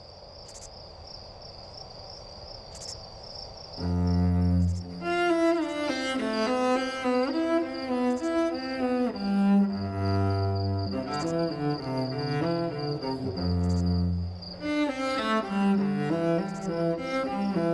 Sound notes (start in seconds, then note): none